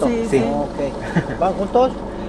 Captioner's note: Spanish